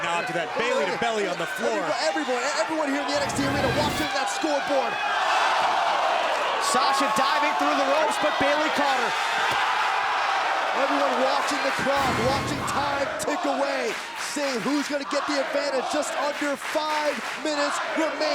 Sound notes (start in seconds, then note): 10.8 crowd cheering